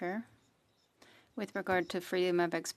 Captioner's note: speaking in French